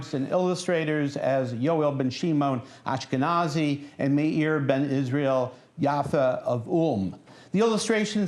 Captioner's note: non-english speech